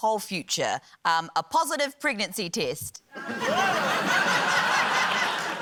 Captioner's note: laughter